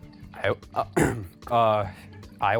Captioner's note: coughs